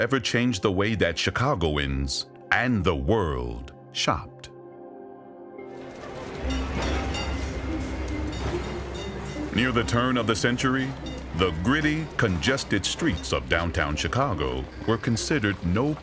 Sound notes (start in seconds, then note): 7.3 intriguing music; 7.3 trolley bell rings